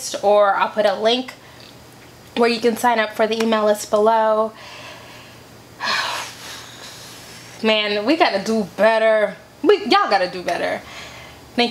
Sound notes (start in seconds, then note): 5.8 sighs